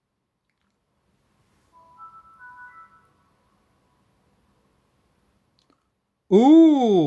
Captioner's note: windows startup sound